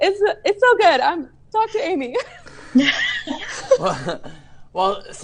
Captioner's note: laughs